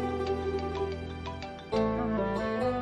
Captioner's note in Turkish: Telefon çalıyor